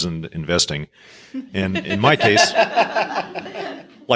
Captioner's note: crowd laughing